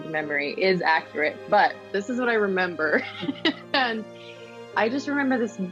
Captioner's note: laughs